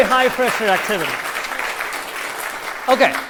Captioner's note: applause